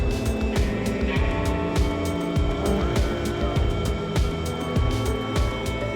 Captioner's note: engine droning; techno music continues